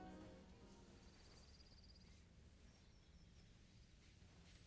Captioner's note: birds chirping